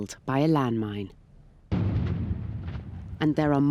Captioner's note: explosion roars